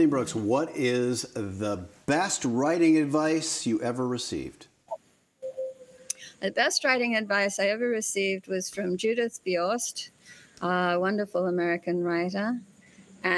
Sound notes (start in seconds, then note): none